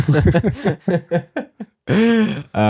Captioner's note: laughing